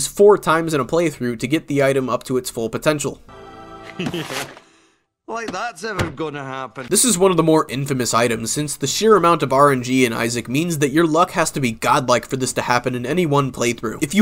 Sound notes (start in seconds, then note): 4.0 laughs